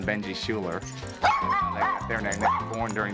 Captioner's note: barking